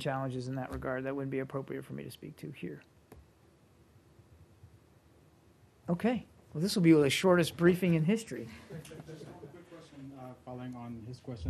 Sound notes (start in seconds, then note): 8.6 laughter